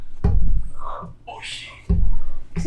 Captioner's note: achmet – artificial male voice